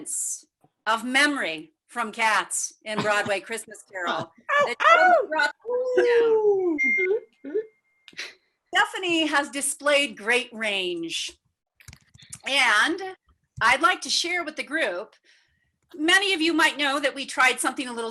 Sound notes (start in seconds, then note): 4.6 attendees cheering; 5.1 audio cutting out